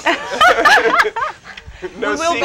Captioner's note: laugh